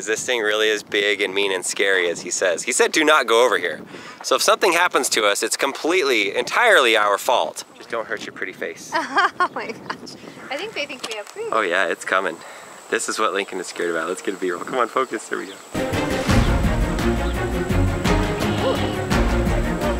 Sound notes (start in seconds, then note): 8.9 laughing; 15.8 suspenseful music